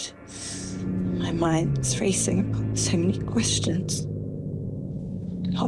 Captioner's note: distant plane